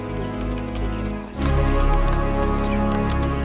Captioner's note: Lanae mumbles